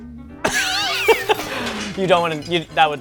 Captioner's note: laughter